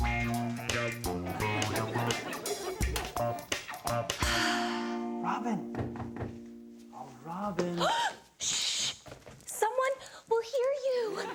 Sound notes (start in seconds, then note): 0.0 smooth synth music; 4.2 sighs; 5.7 knocking